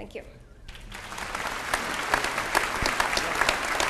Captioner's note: applause